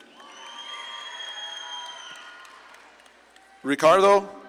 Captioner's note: audience claps and cheers